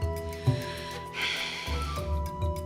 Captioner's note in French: soupirs